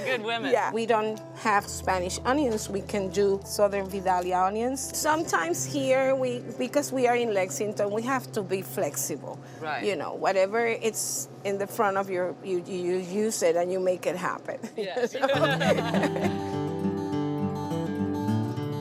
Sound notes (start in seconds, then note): 15.0 all laughing; 15.3 calm guitar music